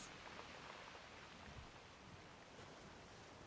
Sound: waves lapping

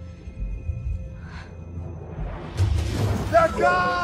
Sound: Moana gasping

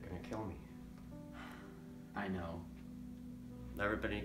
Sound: sigh

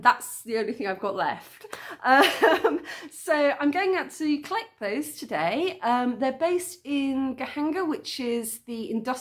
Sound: laughing

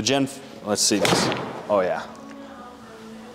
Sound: golf club striking ball

